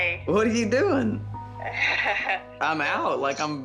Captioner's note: laughs